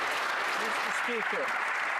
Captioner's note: some Applause